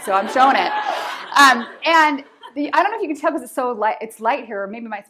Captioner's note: laughter